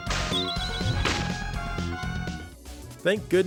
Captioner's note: crash